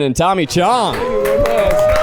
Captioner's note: crew applauds